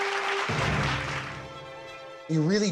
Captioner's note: audience applauds